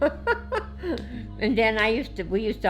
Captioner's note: laughing